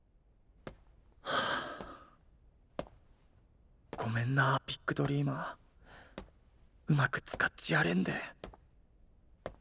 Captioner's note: sigh